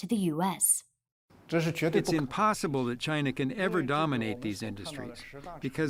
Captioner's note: through translator